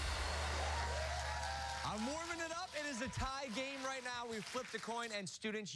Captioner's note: cheers and applause